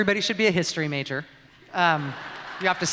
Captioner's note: laughter